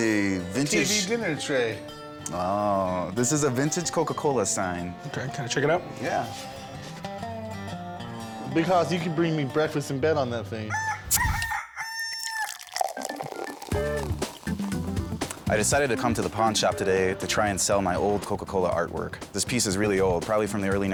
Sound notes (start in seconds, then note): 10.7 rooster crows; 12.1 liquid pouring